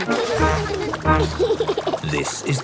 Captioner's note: giggles